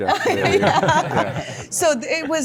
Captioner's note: everyone laughs